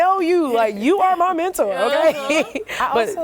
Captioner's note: laughter